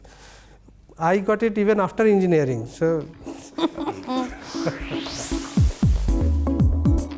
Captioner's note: chuckles